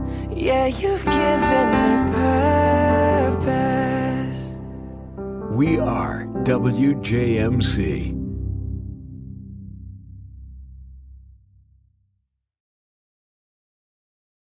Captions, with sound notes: Yeah, you've given me purpose [Voiceover] We are WJMC.